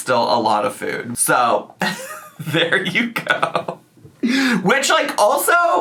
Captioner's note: laughs